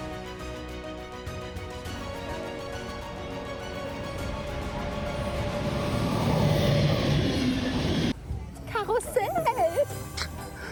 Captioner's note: speaking in German